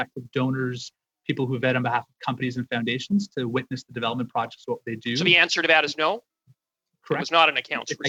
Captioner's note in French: voix de l'interprète